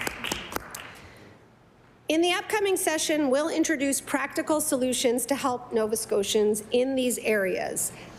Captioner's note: some Applause